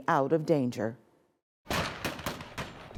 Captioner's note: gunshots banging